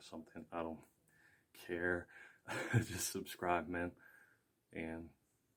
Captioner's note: laughs